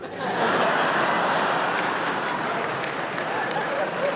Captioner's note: laughter